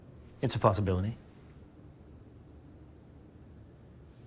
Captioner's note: none